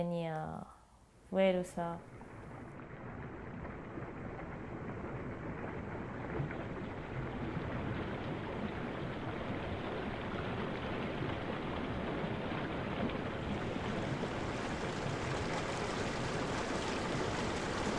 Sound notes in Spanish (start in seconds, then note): 2.0 Sonidos acuáticos